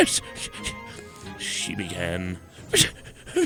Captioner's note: stuttering; more stuttering